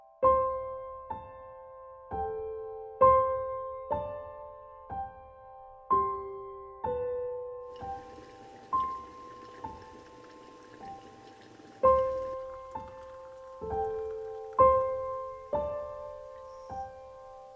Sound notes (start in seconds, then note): 8.2 water boiling